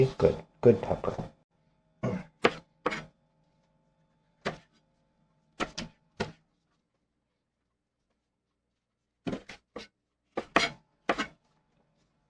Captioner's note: knife cutting